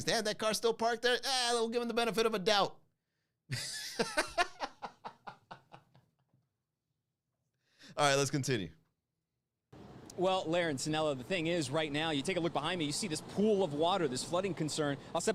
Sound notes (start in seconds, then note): 3.6 laugh